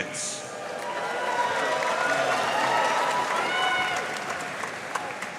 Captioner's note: audience cheering and applauding